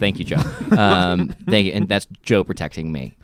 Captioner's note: laughing